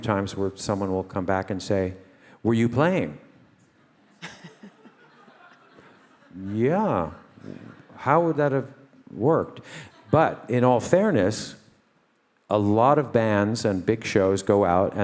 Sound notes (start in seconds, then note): 4.0 all laugh